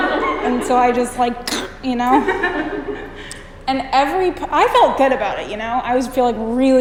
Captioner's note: cutting sound